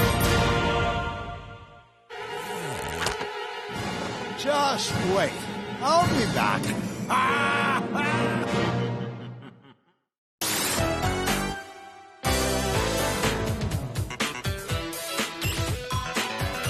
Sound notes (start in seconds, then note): 7.2 evil laugh